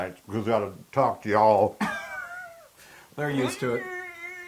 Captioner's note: laugh